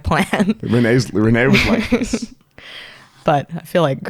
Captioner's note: laughs